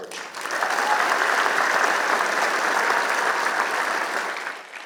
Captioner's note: applause